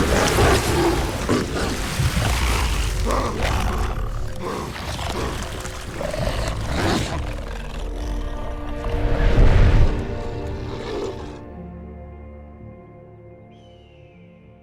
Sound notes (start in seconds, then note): 1.4 growling